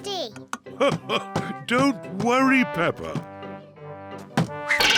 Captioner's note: laughs